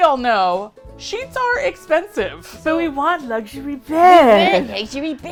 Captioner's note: gravelly voice